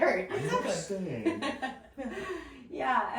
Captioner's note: laughs